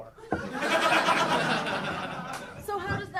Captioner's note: audience laughing